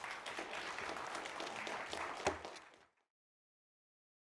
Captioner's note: audience applauding